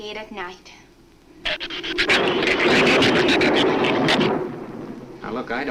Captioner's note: shrew chatter; thunder claps